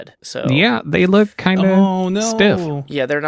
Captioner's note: mocking